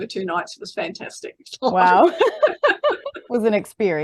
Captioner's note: everybody laughing